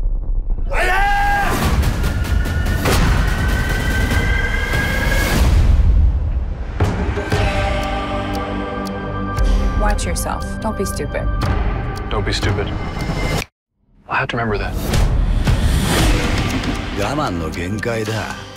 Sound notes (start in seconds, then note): 15.5 music darkens; 16.6 speaking in japanese